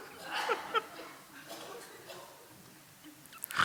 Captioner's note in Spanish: El grupo ríe